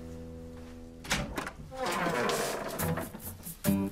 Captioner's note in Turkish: Kapı açılma sesi